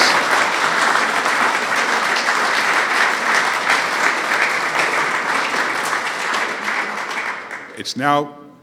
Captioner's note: applause